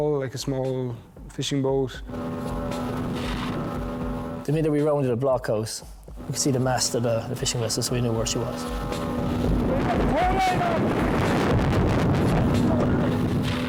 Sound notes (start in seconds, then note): 2.0 boat droning; 2.3 water whooshing; 8.9 boat droning; 8.9 water whooshing; 13.4 boat droning; 13.4 water whooshing